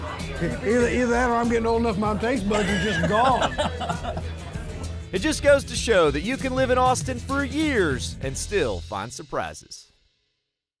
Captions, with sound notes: - Either that or I'm getting old enough that my taste buds are just gone. (laughing) - It just goes to show that you can live in Austin for years, and still find surprises.